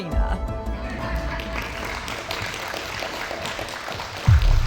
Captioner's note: audience clapping